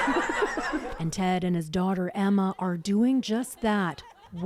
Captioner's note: laughter